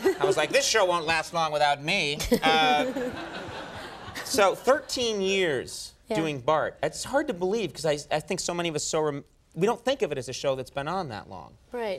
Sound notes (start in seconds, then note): 3.9 Nancy laughs